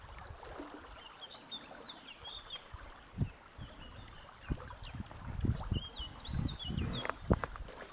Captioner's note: birds chirping all over the place